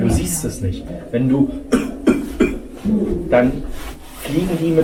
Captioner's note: cough